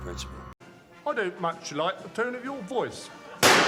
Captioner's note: gunshot and cry of pain